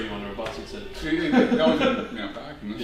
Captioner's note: laughing